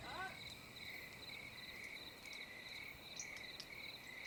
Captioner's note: crickets chirping